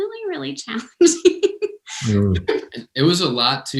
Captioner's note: laughter